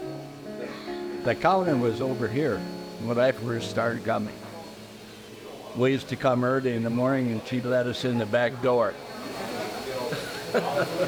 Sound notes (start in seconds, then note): 9.3 chuckles